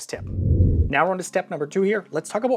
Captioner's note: air whooshing